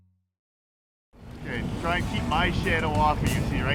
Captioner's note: voiceover